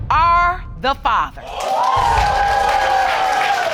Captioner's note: cheering and applause